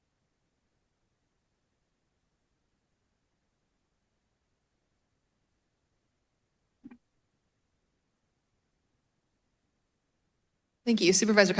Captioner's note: silence